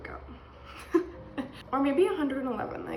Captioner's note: laughs